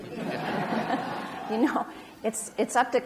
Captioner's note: audience laughs